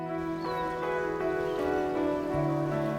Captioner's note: birds chirping